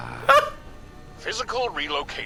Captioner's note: laughs